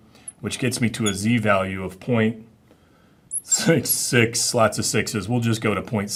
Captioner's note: chuckling